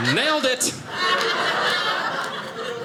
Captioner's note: audience laughing